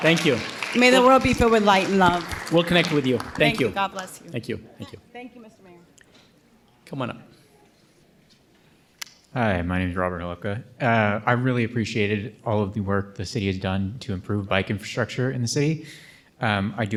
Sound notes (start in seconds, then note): 0.0 audience applauding